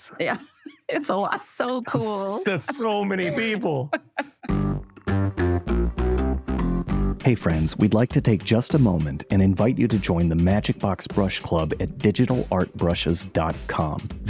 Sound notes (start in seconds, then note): 0.1 laughter